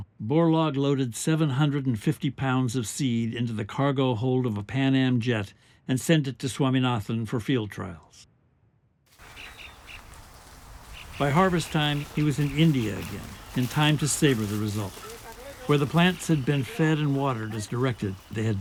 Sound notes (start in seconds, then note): 9.4 birds chirping